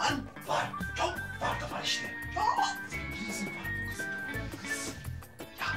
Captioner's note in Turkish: Fısıldıyorlar